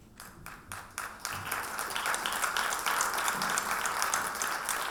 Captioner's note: audience clapping